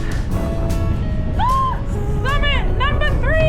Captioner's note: screech